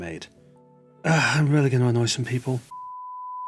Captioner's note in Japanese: 長くてイライラしたため息